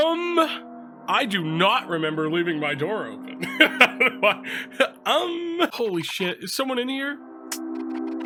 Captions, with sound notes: Um?! I do not remember leaving my door open!" (laughs) "Um!" "Holy shit! Is someone in here?!